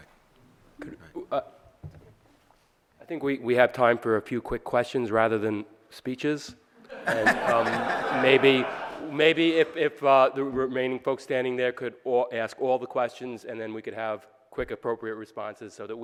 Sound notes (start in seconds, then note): 6.8 audience laughing